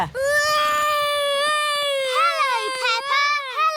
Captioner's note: continues wailing